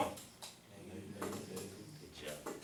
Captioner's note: voiceover